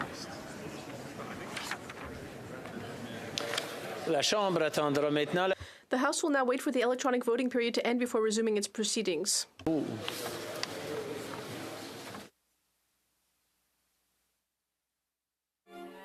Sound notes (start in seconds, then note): 7.8 speaking French